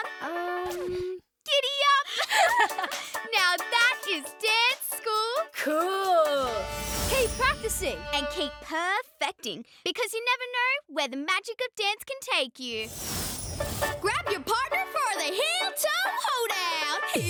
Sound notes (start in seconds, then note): 2.2 both chuckling